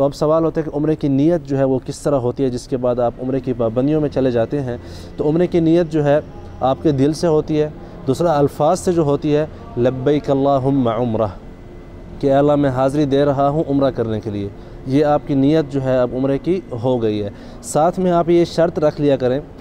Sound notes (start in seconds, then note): 9.8 Arabic